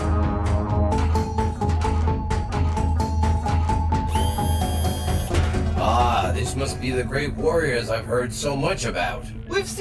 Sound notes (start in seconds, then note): 1.0 suspenseful synth music; 4.1 whirs